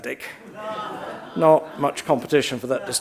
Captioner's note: audience laughs